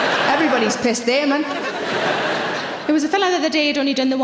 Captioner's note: audience laughing